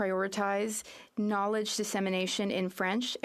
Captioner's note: speaking French